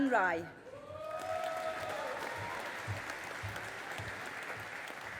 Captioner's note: audience applauding